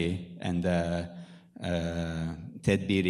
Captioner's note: speaking in foreign language